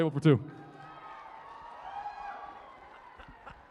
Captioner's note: cheering and applause